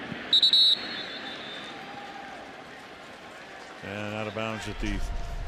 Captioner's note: whistle blows